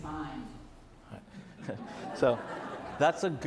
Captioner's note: audience laughs